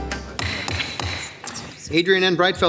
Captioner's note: gavel thudding